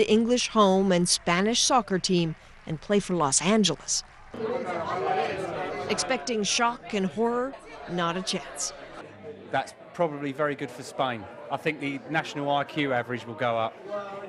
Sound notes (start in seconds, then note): 5.2 indistinct chatter